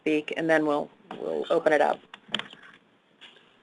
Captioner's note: another person whispering